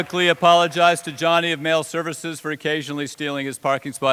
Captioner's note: cheers and applause